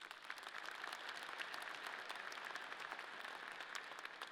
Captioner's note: audience applauding